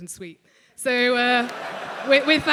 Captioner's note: laugh